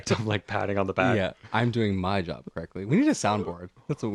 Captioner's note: laugh